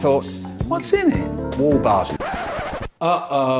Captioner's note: record scratch